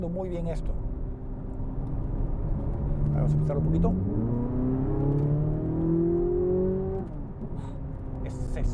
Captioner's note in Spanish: Sonido del motor